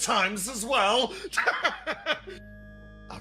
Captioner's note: laugh